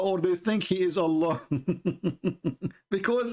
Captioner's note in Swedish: Skratt